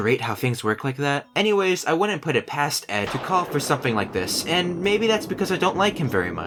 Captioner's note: thunder